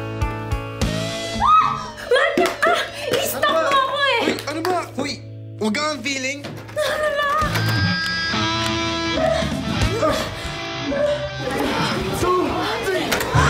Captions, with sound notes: Pervert! Stop stalking me! Excuse me, I’m not stalking you! It’s locked! [GRUNTING AND MOANING] One…two…three!